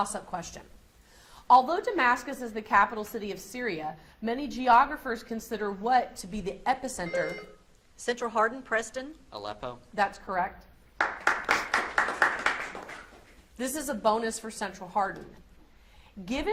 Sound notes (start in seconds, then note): 11.0 audience applauds